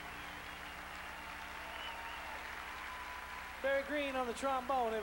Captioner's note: crowd cheering